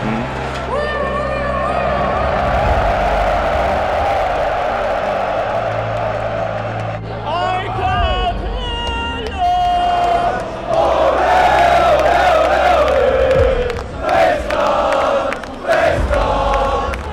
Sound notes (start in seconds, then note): 0.3 ambulance sound; 2.7 crowd howling; 11.0 crowd